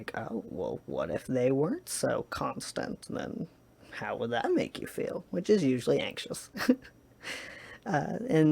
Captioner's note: chuckles